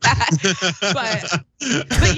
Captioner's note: laugh